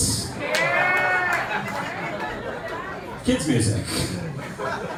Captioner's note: laughter and cheering